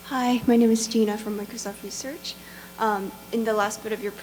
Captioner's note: voiceover